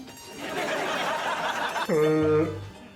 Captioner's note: laughter